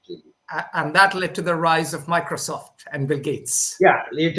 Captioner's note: laughs